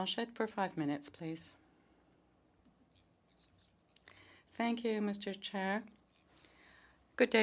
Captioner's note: speaking French